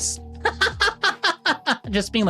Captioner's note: laughs